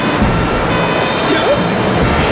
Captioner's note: straining; wind Howling